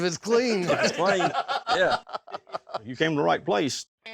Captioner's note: everyone laughs